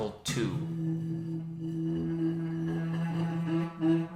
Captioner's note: flask screech